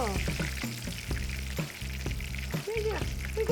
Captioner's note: oil sizzling